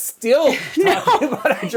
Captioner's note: laughs